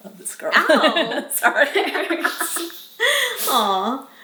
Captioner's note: laughs